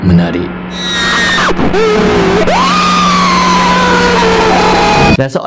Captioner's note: cry and scream in demonic voice